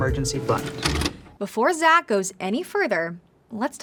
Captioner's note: videotape pauses